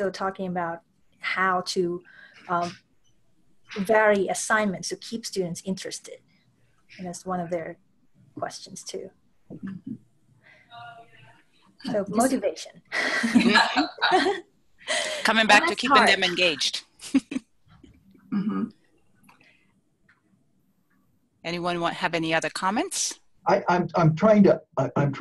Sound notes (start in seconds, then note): 13.0 laughter